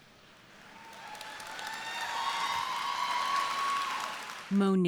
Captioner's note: crowd applauding